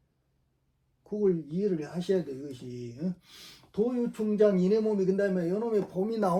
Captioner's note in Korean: 콧방귀